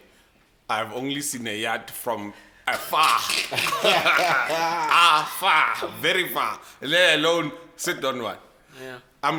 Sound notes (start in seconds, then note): 2.8 everybody laughs